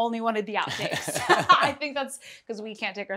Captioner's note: laughter